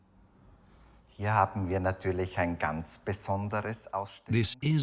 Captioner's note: speaks in foreign language